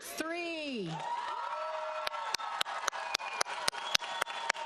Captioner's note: audience applauds